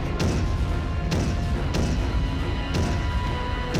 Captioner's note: thunderous footsteps